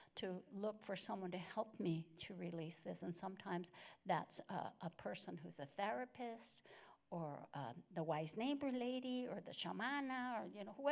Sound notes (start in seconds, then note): none